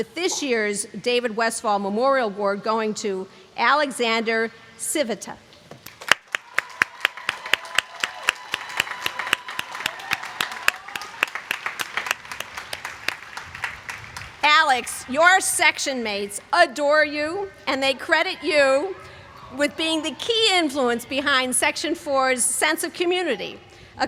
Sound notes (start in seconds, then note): 5.8 applause